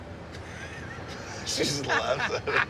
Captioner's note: laughter